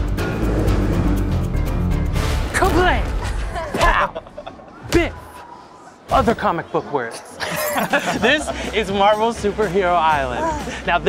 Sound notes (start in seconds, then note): 7.4 all laugh